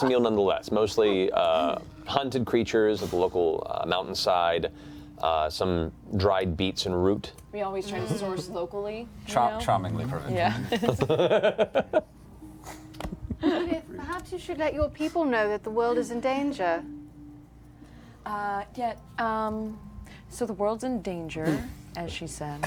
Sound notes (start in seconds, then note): 12.9 laughs